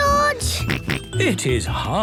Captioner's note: panting; snorts